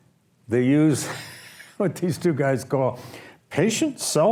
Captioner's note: laughs